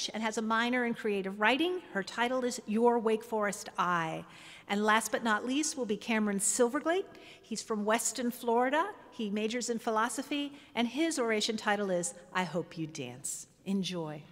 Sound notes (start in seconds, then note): none